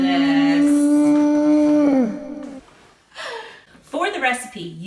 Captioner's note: whale whistles